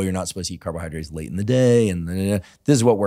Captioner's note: mumbles